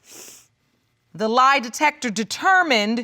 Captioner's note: sniffles